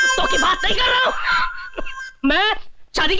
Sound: cough

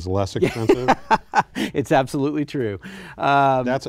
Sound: laughter

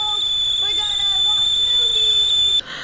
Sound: screeching

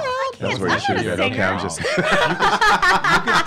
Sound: laughing

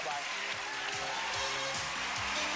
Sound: applause; bright music

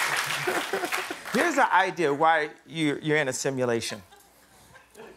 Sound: cheers and applause; laughter

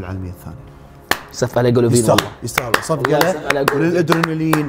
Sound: claps

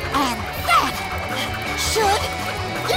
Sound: none

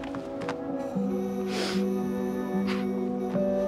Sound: he sobs

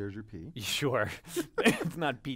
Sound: laugh

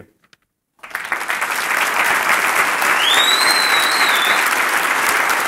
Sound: applause

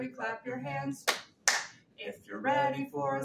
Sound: hands clapping

